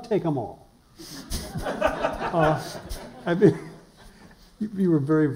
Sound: laughter

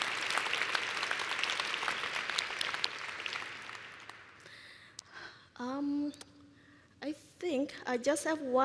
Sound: applause

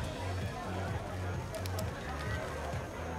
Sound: crowd noise

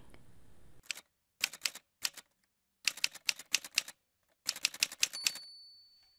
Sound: typewriter sounds

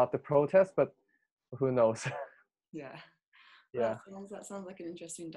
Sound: laughs

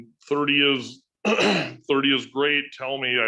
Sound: clears throat

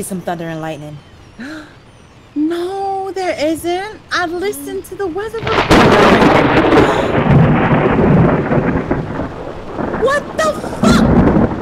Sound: thunder claps and rain

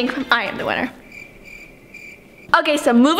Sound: crickets chirping

